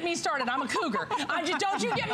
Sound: laughter

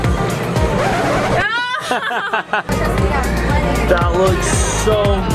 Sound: laughing

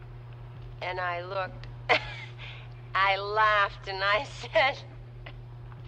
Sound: chuckles

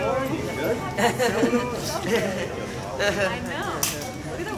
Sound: laughing

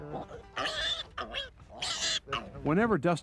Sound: Piglet Squeals

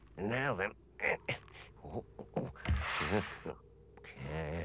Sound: Henchman Weasel grunts

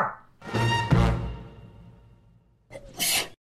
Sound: Chris sneezes

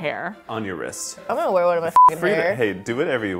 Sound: beep

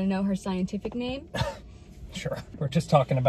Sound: coughing

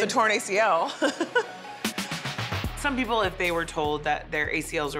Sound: laugh

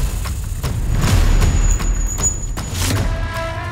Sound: bells jangling

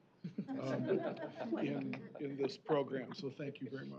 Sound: laughter

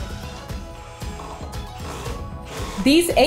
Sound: power tool drilling

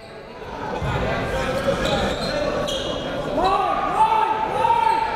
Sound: players yelling

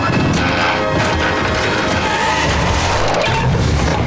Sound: screeching; thudding

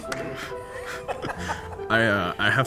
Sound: laughter

